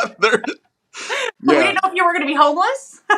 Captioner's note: laugh